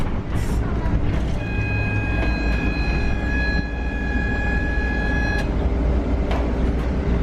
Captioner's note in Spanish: sonido de timbre de parada